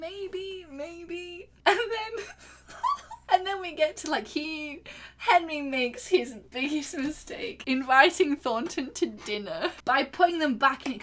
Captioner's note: laughing